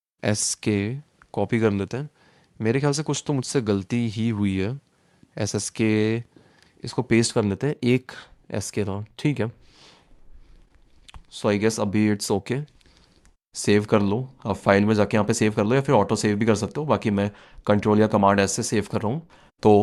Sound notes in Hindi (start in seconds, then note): 10.2 नाक से की जाने वाली आवाज़